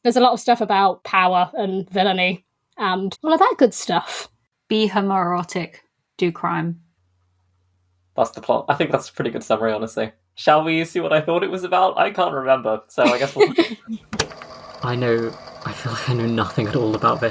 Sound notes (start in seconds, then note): 13.0 laugh; 14.0 tape recorder clicks on